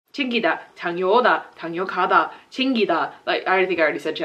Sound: speaking Korean

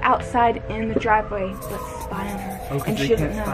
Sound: marker writing

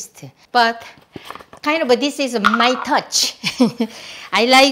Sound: laughs

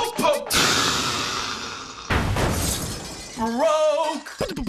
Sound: crashing

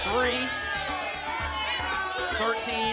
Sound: audience shouting numbers

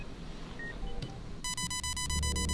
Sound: monitor beeping

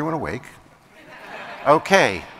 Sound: laughter

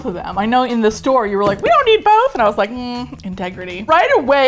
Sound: high pitch voice

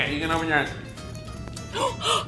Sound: gasping

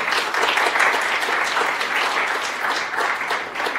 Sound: applause

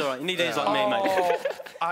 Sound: chattering; giggling

